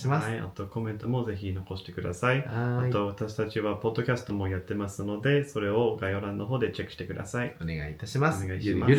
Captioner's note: Japanese language